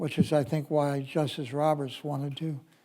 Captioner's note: none